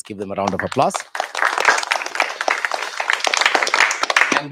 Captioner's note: applause